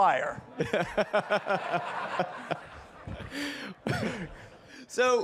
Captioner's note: participants laughing